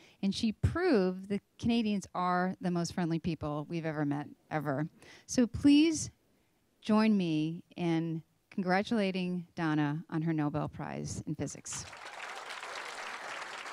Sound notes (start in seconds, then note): 11.7 applause